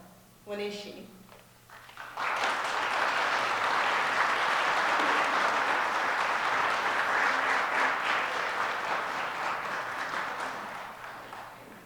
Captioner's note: audience clapping